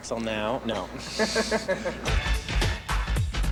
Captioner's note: laughter